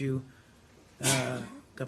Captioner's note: sneezes